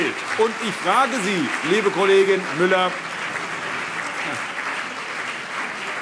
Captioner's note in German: Beifall CDU und BÜNDNIS 90/DIE GRÜNEN